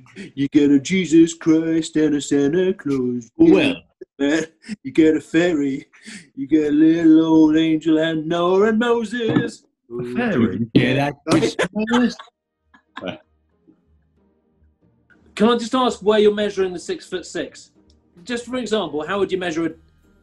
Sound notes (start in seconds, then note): 11.3 laughter